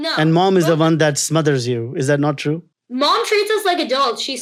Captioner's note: none